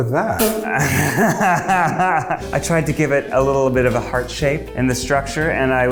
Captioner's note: laughs